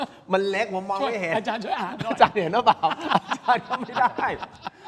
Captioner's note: laughs